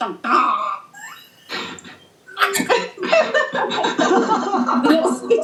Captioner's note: group Laughter